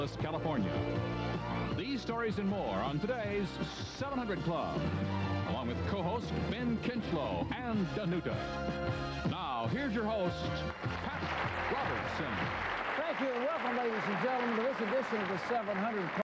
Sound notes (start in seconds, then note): 11.8 applause from studio audience